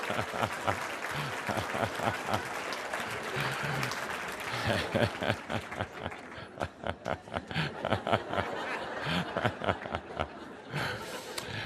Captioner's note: lots of laughter and applause, laughing